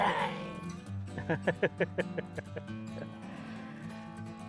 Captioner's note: laughing